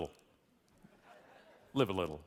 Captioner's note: audience laughing